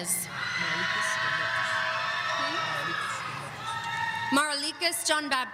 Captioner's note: audience cheering